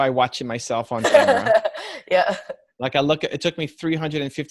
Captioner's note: laughing